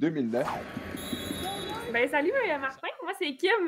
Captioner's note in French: coup de sifflet